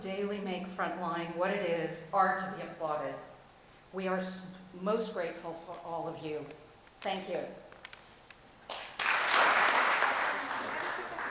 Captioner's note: applause